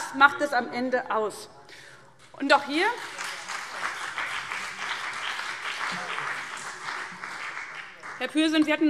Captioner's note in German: Beifall SPD